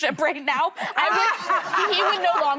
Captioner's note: laughing